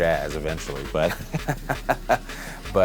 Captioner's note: laughter